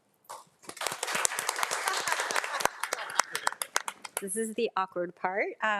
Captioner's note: board of trustees and attendees applauding